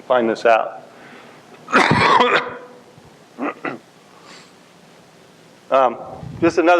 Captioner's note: coughs